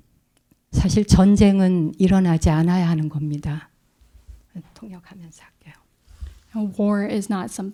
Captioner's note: speaking in Korean